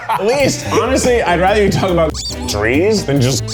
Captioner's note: squeak